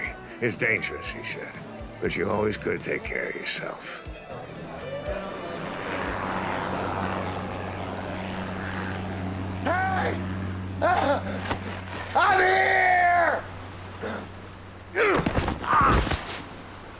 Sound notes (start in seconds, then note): 4.6 plane engine sputtering; 10.0 panting; 14.9 grunting